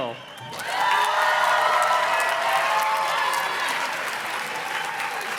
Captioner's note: audience cheers and claps